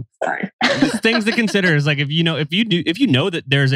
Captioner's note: laughs